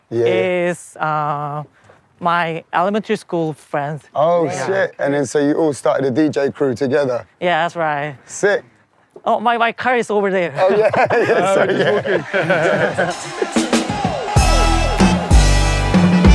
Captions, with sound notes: is my elementary school friends. Oh, shit. And then so you all started a DJ crew together? Yeah, that's right. Sick! Oh, my car is over there. Oh yeah?! *Laughing*